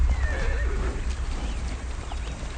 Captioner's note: horse neighing